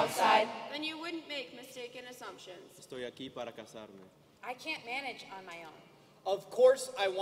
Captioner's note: speaking native language